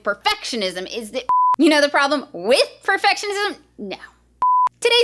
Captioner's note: beep; beep